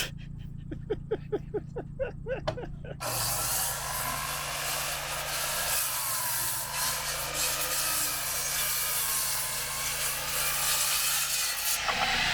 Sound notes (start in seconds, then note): 0.0 laughing; 3.7 table saw whirring